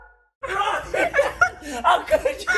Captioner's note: men laughing